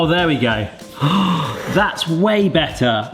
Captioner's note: gasping